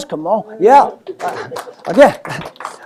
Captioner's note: applause